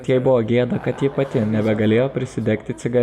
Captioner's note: laughter